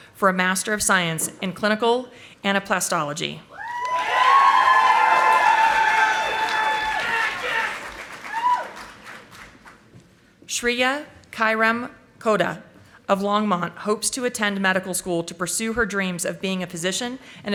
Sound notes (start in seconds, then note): 3.8 audience applauding